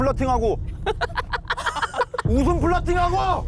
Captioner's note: giggly laugh